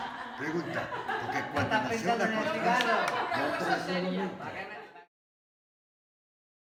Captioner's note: group laughter